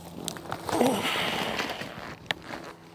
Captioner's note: groan